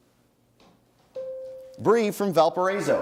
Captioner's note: bell rings